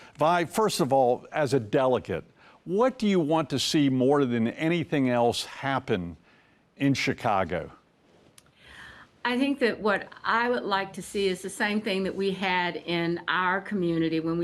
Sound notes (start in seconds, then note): none